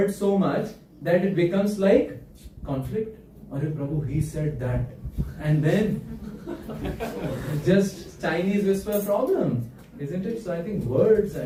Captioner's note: laughter